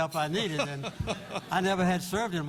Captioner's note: laughter